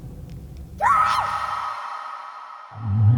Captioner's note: scream